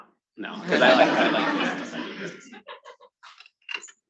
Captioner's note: attendees laughing